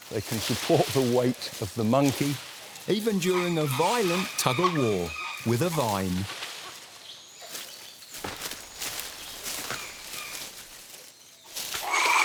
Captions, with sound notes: They can support the weight of the monkey. Even during a violent tug of war with a vine. (leaves crunch)